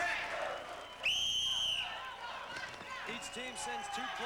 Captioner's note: whistle blows